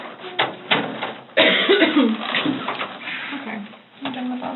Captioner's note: door shuts